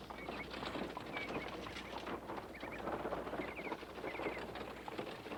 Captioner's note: wagon rattling